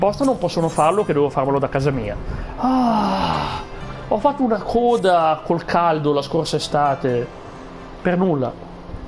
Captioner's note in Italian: gemito